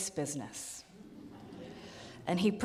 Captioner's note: audience laughs